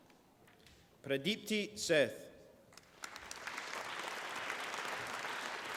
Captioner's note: applause